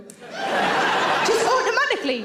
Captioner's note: audience laughs